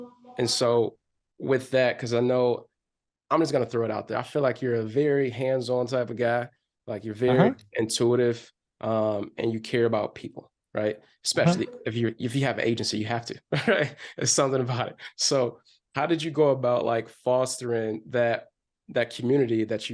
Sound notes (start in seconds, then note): 13.4 chuckles